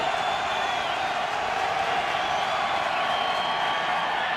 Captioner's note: cheering